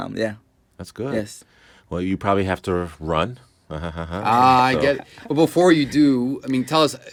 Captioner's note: chuckling